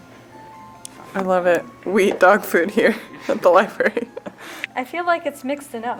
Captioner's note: laughing